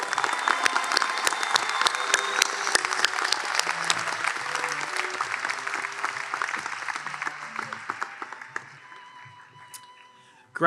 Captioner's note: applause